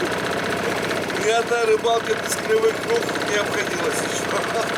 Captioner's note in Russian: смеётся